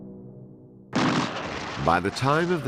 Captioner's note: guns blasting